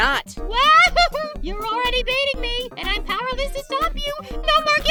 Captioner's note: laughs